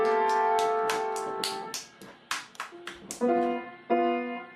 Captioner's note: someone continues clapping; child continues playing piano; child continues clapping